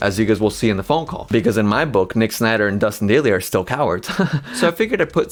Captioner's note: chuckles